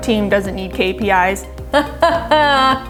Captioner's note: laughing